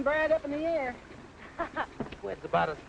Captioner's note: Carol laughs